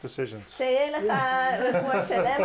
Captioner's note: speaks in foreign language; laughing